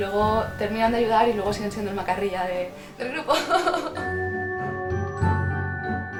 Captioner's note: laughter